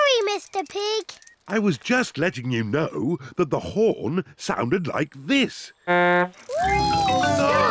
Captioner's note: honks horn